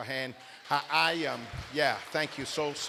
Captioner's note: applause